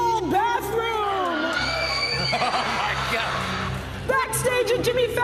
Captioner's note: women screaming